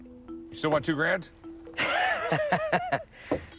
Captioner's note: laughs